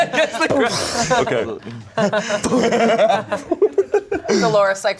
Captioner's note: everyone laughing; laughs